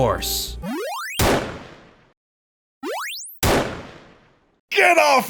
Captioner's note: game sounds, gunshots